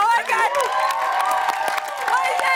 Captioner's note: cheers and applause